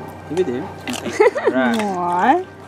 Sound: laugh

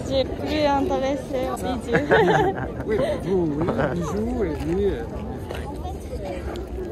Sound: laughs

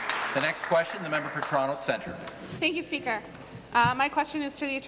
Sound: applause

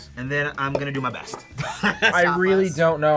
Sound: laughs

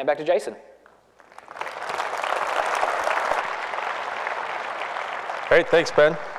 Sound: applause

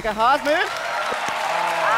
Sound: cheers and applause

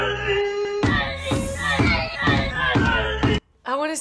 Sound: voice in slow-mo; voice repeats rhythmically

